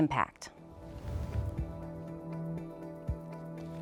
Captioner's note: whoosh